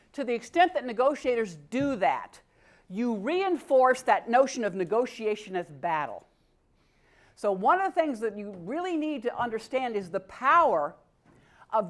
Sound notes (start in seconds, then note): none